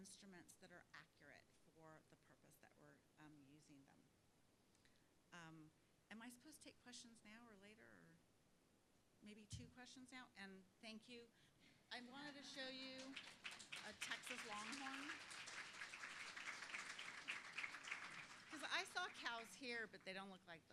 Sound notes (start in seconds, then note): 11.7 laugh; 15.0 applause